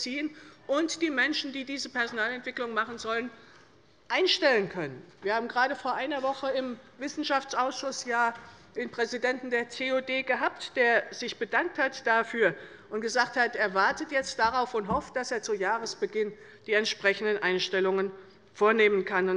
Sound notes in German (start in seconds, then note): none